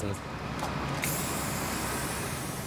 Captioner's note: spraying noises